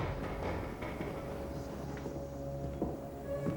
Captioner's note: wood boards rattling